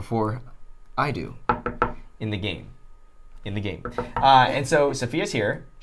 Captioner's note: knocking on wood